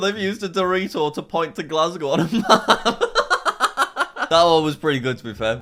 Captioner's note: laughing